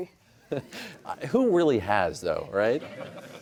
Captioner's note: chuckles